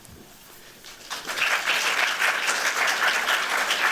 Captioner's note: applause